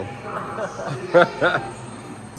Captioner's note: laughing